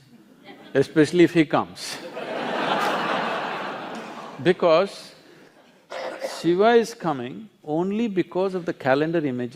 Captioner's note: laughter